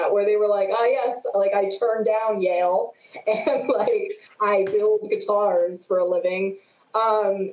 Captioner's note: laughs